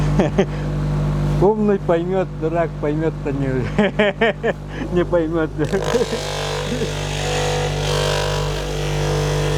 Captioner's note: laughter